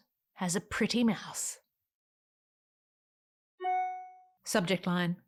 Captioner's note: email arrival ding